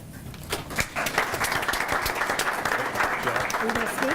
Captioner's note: group applauds